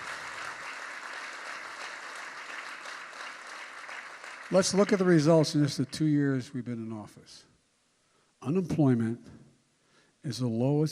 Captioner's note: applause